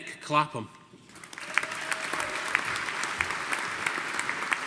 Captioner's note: audience applauding